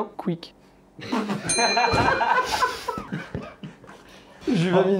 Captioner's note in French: rires